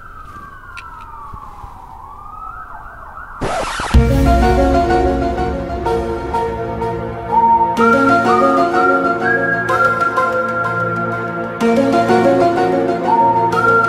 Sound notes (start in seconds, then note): 3.4 record scratch